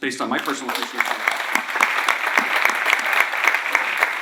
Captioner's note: applause